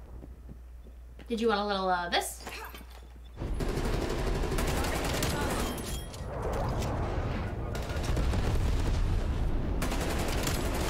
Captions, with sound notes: Did you want a little of this? (gunshots)